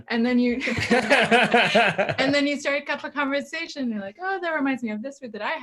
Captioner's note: everyone laughs